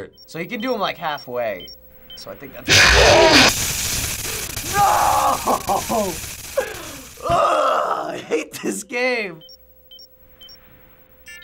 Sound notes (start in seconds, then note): 2.6 loud, abrupt screech; 4.2 exclaims; 9.3 beeping